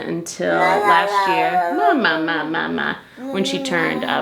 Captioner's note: vocalizing